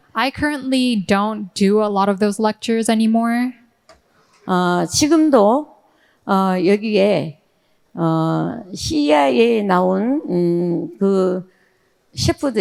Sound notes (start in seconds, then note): 4.5 speaking in foreign language